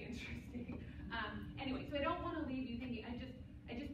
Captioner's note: laughs